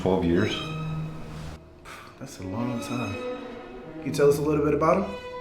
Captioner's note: scoffs